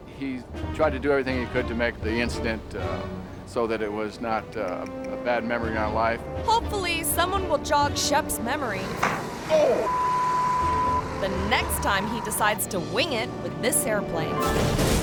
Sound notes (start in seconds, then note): 9.1 wing thuds; 9.6 beep